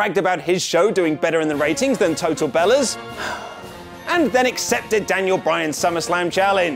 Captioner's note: sigh